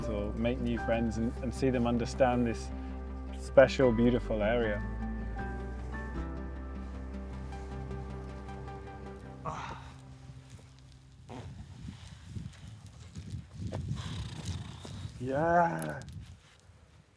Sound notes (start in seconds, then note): 12.0 wind blowing